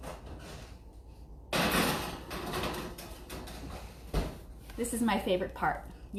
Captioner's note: metal clanging